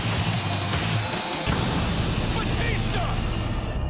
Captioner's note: crowd cheering